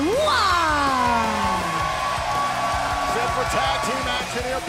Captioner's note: crowd cheering